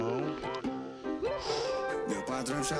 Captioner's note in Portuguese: expira